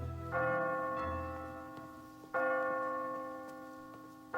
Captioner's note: church bell ringing